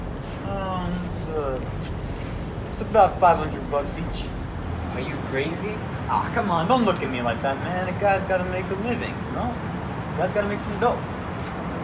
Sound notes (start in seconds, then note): none